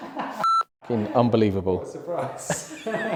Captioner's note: laughs; beep; laughs